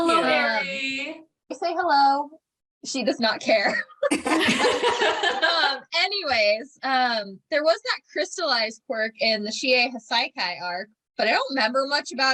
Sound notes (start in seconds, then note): 3.7 laughter